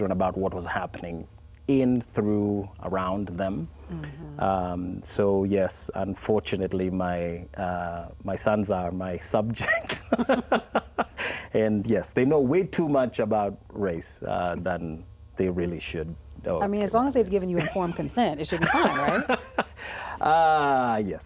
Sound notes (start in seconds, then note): 9.6 laugh; 18.4 laughs